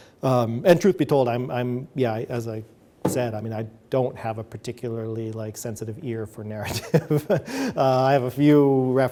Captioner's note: chuckles